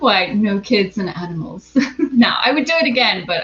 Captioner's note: laughs